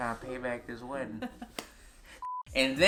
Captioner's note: laughs